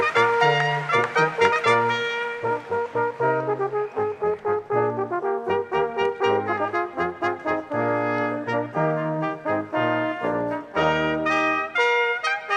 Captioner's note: applause